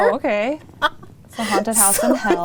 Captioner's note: laughs